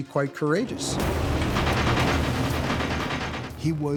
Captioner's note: artillery fire